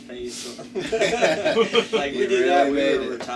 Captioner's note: band laughs